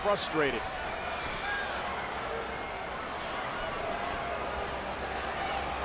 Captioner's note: audience chattering